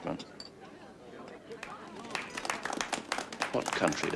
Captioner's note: audience applauding